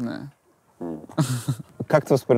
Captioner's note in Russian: смеется